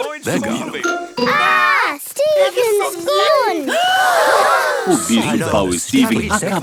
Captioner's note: gasps